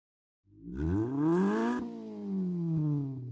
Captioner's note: engine revs